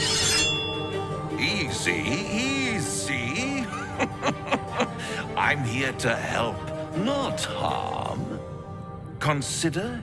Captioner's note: laughing